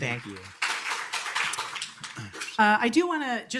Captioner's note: applause